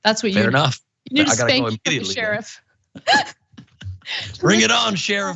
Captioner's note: laugh